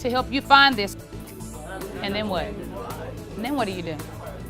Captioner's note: students chattering